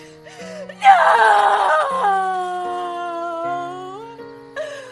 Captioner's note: Girl Jeri crying